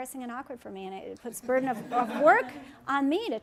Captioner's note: laughter